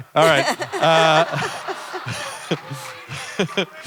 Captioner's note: laughter